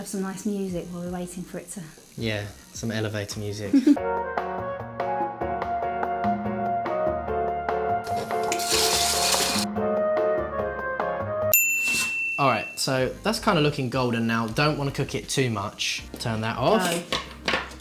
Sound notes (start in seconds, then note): 4.0 elevator music; 8.0 tap running; 9.9 elevator music; 11.5 ding